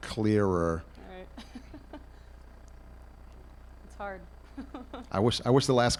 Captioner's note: laughs